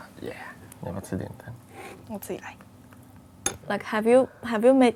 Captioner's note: speaking in foreign language